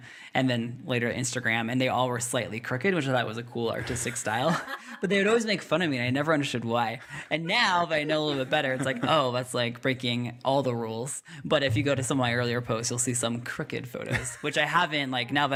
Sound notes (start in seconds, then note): 4.4 laughing